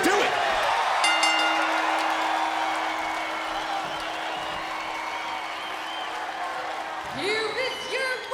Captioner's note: bell ringing